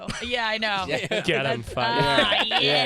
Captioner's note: laughter